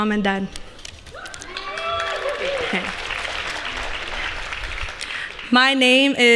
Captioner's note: applause